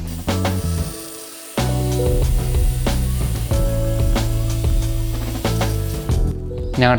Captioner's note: saw whirring; chill music